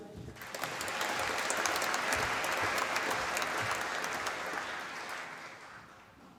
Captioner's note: applause